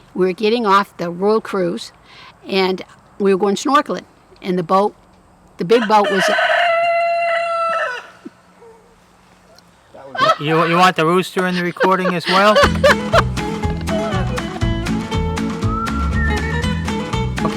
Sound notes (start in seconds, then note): 5.7 rooster crows loudly